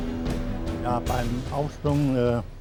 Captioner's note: speaking german